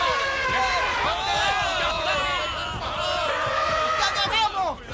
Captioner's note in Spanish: gritan asustados